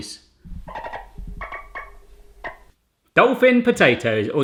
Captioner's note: dolphin squeaking